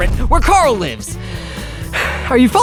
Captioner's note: sighing